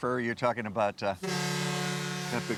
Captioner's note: ship horn blowing